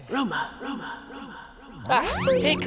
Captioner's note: echoes